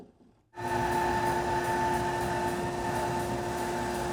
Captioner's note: machine whirring